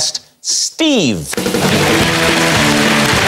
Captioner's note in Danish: Klapsalve